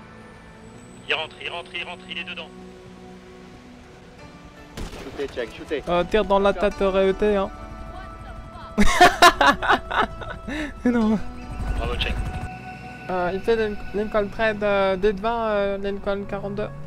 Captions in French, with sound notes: - (radio) IL RENTRE IL RENTRE IL RENTRE. - Tir dans la tête réussi. [rires.] - (radio) Bravo Chang ! - Ici Lincoln 13, 10-20 Lincoln 42